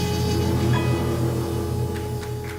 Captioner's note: applause